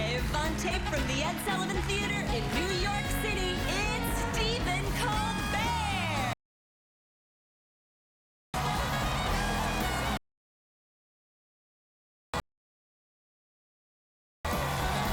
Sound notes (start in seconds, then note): 0.0 clap, clap; 0.6 cheers and applause